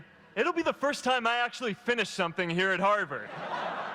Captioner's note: laughter